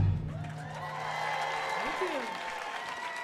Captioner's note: audience cheering and applauding